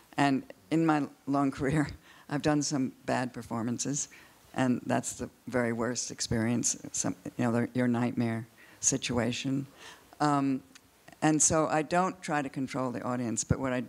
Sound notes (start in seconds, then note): none